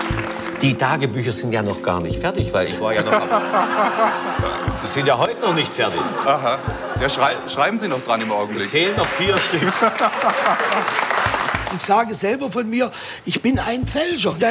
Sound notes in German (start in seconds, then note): 2.9 Gelächter; 10.5 Applaus